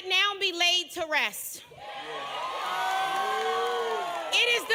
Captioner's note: applause